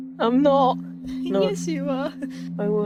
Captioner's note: laughs